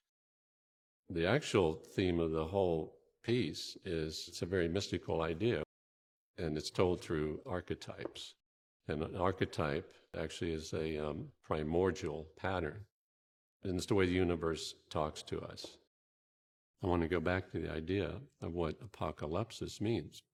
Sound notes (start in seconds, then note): none